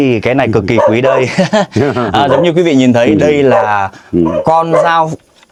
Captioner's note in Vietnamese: tiếng cười